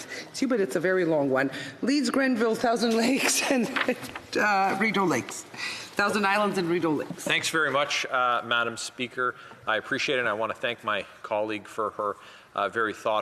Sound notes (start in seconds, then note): 0.9 speaking French